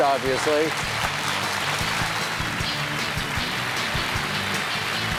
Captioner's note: applause